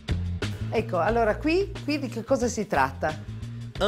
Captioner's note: speaks in Italian